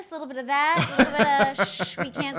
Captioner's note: laughing